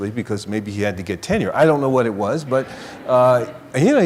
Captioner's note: laughter